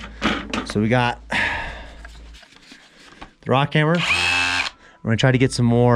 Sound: buzzing drilling

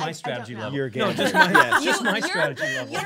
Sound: laughing

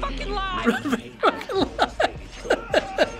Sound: chuckling and quoting

